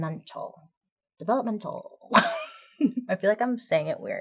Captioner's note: laughing